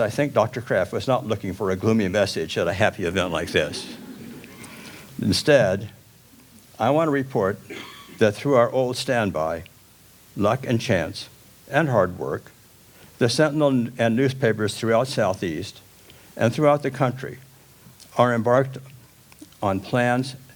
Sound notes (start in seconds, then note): 3.2 audience chuckles